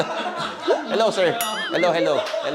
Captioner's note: boys laughing